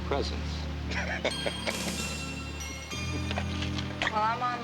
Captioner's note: men laughing